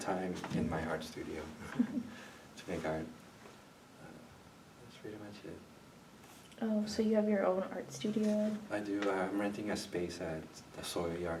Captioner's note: chuckles